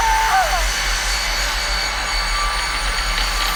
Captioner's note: rumbling